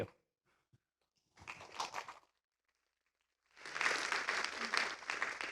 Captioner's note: applause